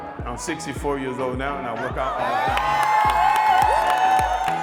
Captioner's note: applause